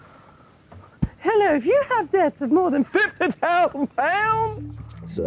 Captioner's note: imitating phone call